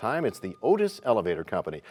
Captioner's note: bell rings, time expires